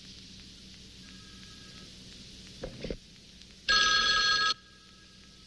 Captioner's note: phone ringing